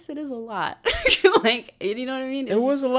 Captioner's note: laughs